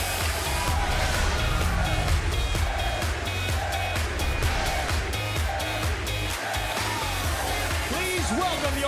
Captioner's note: fans chanting